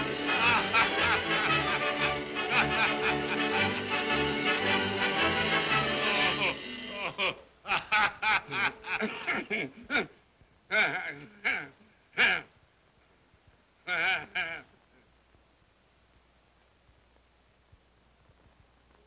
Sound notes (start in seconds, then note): 0.0 whimsical music; 0.0 spirit laughs; 6.8 spirit laughs; 8.8 Scrooge grunts; 13.8 Scrooge laughs